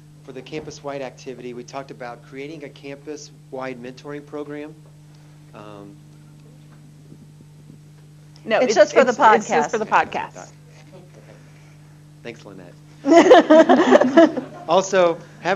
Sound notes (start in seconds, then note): 9.6 laughter